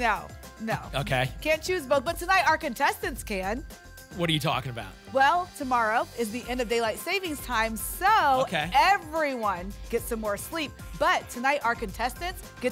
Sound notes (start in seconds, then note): none